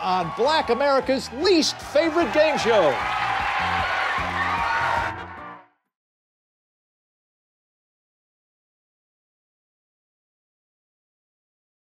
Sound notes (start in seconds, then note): 2.9 cheers and applause